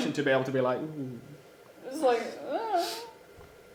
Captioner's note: groans